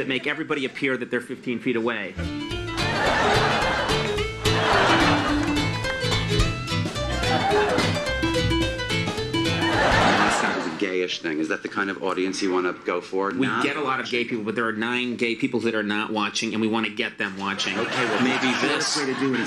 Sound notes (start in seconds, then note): 2.6 audience laughs; 3.6 upbeat music